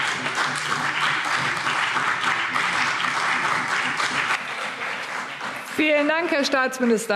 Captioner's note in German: Beifall CDU und BÜNDNIS 90/DIE GRÜNEN